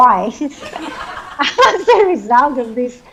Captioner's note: audience laughs